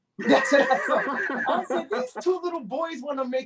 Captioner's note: chuckling